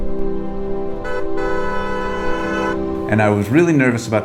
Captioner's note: honking